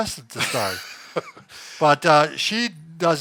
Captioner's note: laughing